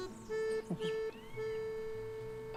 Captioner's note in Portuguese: canto de pássaros